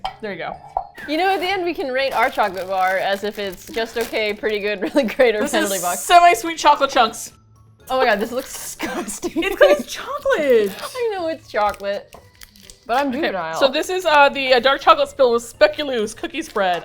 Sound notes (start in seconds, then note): 4.7 laughs; 8.7 laughs